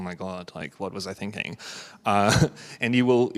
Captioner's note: chuckles